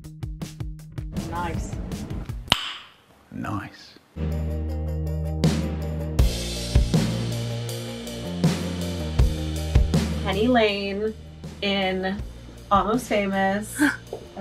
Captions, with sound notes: - Nice. (tongue popping) - Nice. (upbeat music) - Penny lane in "Almost Famous".